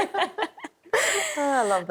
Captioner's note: laughing